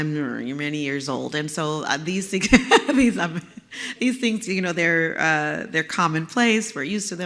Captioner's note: laugh